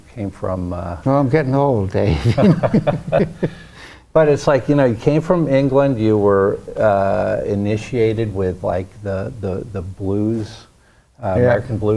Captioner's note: laughs